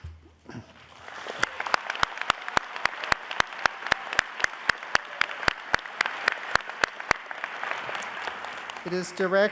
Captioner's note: applause